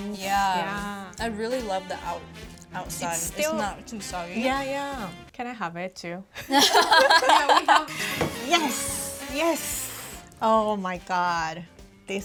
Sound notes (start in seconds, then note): 6.4 duo laughs